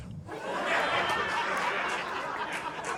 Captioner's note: laughter